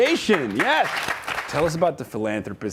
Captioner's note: audience applauds